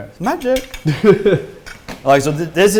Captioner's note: laugh